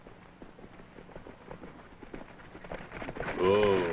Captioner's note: horses approaching